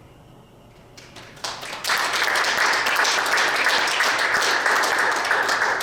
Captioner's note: audience applauding